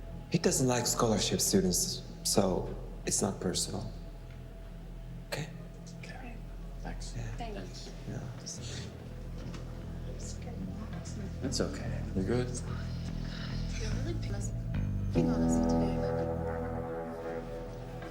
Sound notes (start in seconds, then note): 9.9 people chattering; 15.0 dramatic music